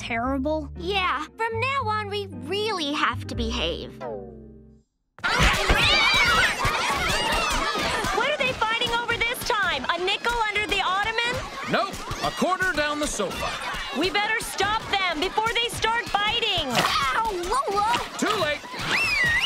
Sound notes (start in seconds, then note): 4.9 shouting, meowing; 18.8 whistling